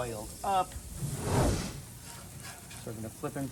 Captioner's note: air whooshing